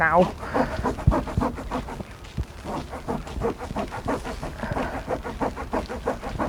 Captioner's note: scrubbing Noises